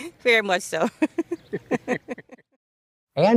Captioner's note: chuckles